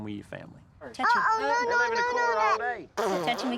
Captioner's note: blows raspberry